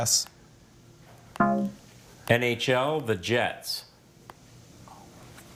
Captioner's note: scoreboard buzzes